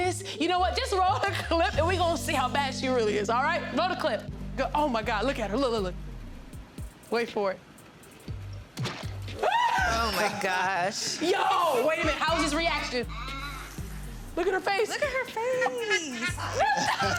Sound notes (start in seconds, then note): 9.4 screams; 11.9 child laughs; 14.8 child laughs; 16.9 all laugh